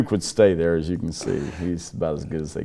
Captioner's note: laugh